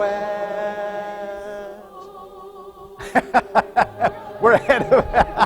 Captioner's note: laughter